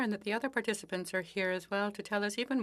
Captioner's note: speaking French